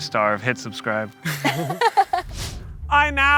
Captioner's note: laughing